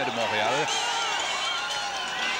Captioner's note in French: cris des supporters